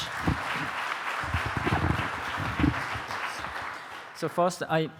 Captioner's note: audience applauding